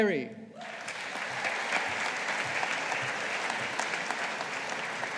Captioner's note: audience applauding